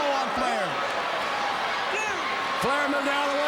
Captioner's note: crowd cheering